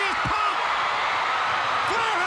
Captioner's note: crowd cheering